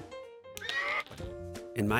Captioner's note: discontented horse winnie